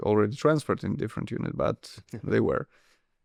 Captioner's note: chuckles